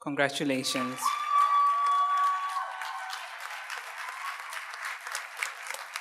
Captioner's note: audience cheers and applauds